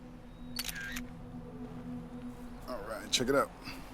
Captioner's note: camera clicking